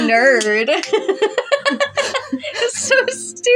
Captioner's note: laugh